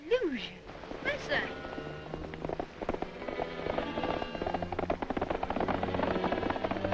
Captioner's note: hooves clopping; tense uneasy music